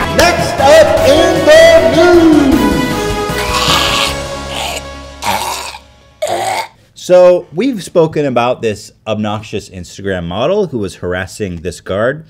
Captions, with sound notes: Next up...! In the news...! *Screeching and choking* So... we've spoken about this obnoxious Instagram model who was harassing this guard.